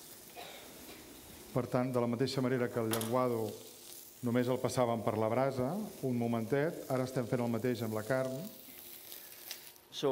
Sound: speaking catalan

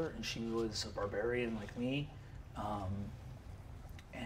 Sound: none

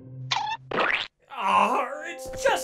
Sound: splatters

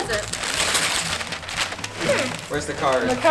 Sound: paper tearing

